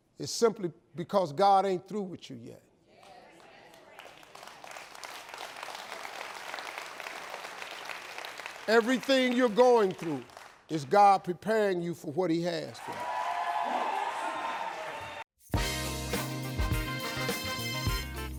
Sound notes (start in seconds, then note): 3.4 audience applauds; 12.7 audience cheers; 15.4 upbeat music